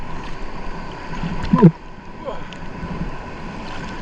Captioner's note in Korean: 물 뱉는 소리